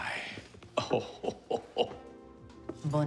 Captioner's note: laughing